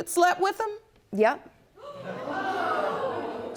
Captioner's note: audience gasps